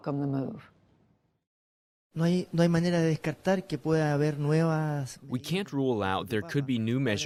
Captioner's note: through translator